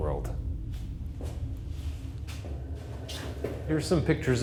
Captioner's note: gentle ominous music; footsteps plodding